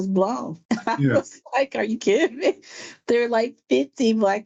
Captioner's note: laughs